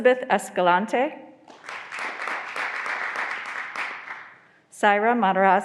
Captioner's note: graduands applauding